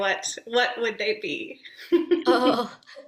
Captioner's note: laughs